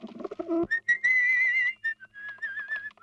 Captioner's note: whistles